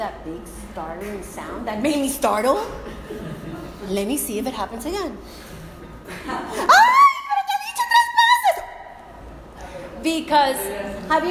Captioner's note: screams in spanish